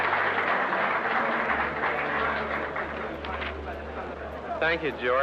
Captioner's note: audience applaud